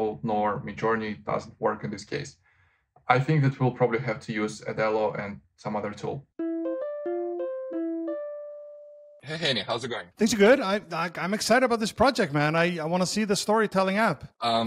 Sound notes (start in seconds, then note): 6.4 cell phone ringing